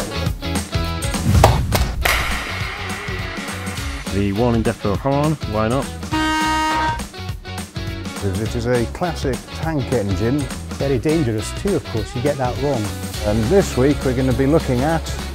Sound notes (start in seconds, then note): 1.2 clap; 1.2 massively loud clap!; 1.2 slightly louder clap